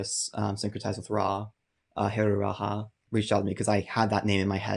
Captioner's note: murmurs